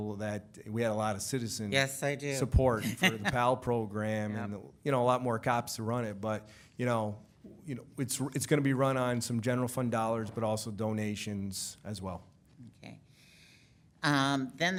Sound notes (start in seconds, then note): 2.8 laughs